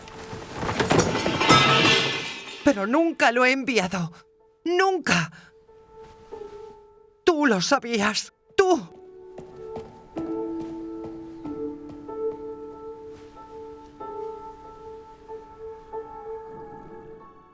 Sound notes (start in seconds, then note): 0.0 metal clatters; 9.9 soft piano music